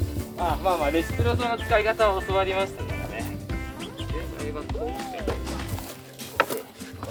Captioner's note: laughs